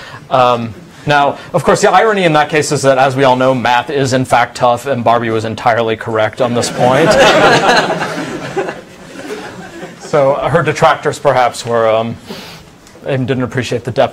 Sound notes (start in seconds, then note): 6.6 audience laughs